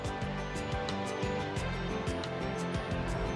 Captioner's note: bell ringing